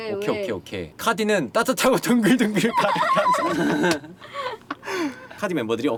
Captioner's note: laughter